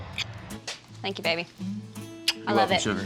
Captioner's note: smooch